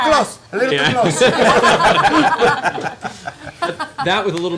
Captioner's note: laughter